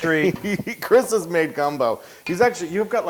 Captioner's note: laugh